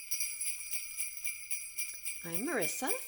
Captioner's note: sleigh bells